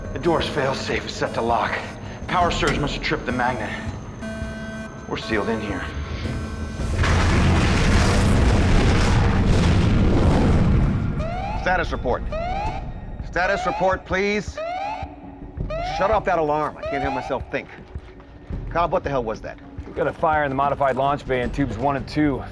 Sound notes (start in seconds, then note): 6.8 rumbling